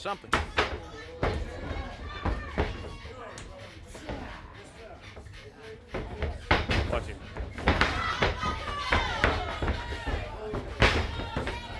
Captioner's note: crowd chatter